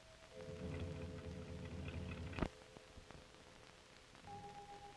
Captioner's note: car rumbling